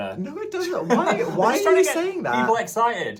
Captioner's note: chuckles